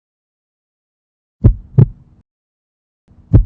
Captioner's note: heart beating; heart beating